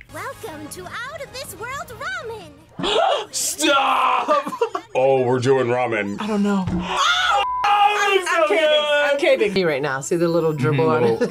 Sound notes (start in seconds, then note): 2.8 gasps; 2.8 laughs